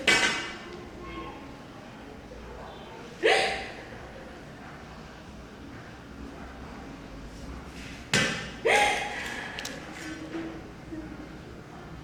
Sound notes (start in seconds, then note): 3.2 sobbing